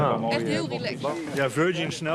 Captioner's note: foreign language spoken audio